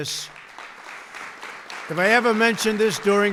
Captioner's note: applause